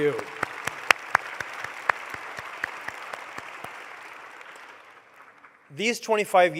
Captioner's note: applause